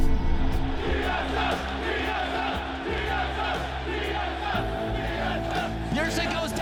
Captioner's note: chanting